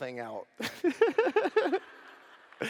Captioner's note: laughter